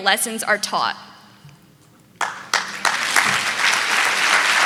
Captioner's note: audience clapping